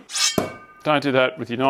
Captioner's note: thud